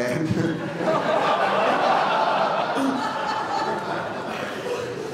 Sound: laughter

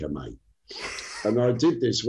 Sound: laughs

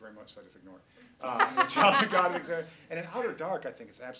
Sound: laughter

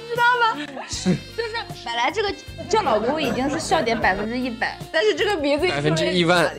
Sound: haha haha haha

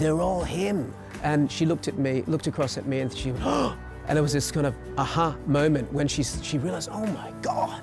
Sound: gasps

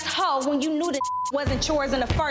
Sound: beep

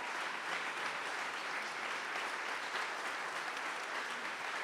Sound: audience applauding

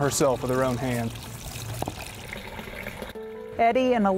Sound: running water

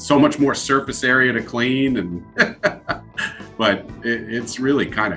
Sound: chuckles

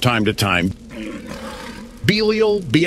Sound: monster roars in the distance

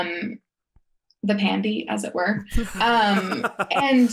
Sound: laughing

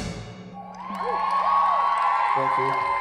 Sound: crowd cheering

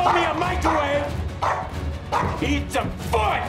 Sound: barking

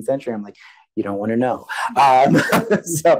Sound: laughs

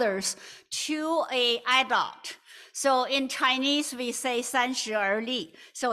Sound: non-english

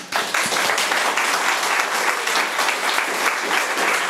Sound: room applauds

